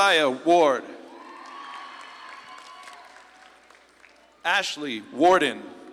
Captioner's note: audience claps and cheers